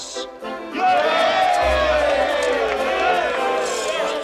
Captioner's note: cheers and applause